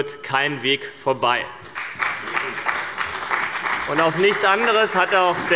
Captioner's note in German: Beifall bei dem BÜNDNIS 90/DIE GRÜNEN und der CDU